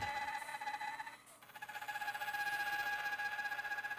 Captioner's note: saw screeches